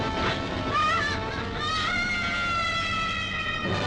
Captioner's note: Tara screaming